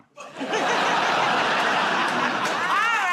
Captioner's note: laughter